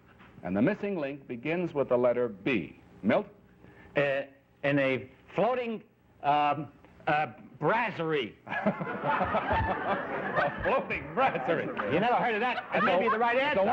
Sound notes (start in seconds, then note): 3.9 stammering; 8.4 laughter